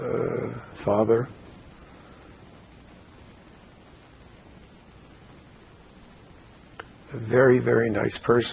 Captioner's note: pauses 6 seconds